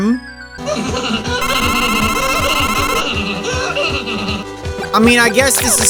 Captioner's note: laugh of bubble bus